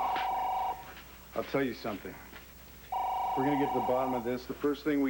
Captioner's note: telephone rings